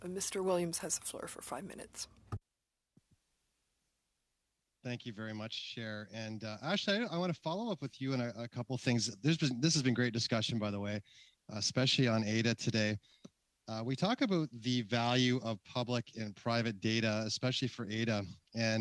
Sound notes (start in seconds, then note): 1.8 speaking French